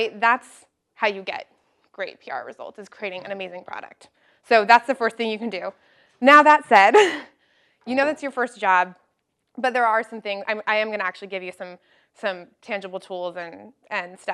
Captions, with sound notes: That's how you get great PR results, is creating an amazing product. So that's the first thing you can do. Now that's said. [LAUGH] You know it's your first job but there are some things, I am going to actually give you some tangible tools and